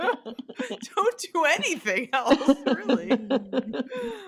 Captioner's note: laughter